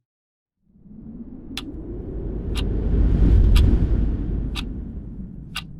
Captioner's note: ticking